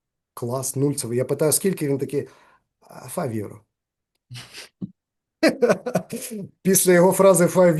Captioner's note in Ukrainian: сміється